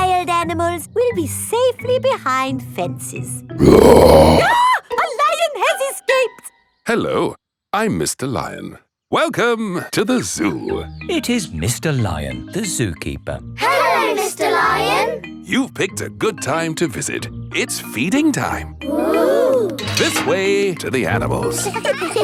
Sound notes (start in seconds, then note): 3.6 roars; 3.6 screams